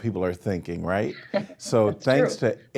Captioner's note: laughing